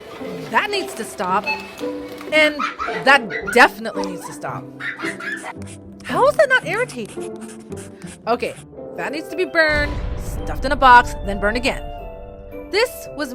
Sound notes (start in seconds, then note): 2.5 squeeling of children; 7.3 writing of pencils